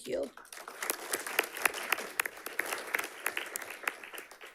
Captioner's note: audience clapping